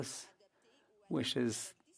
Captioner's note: speaking French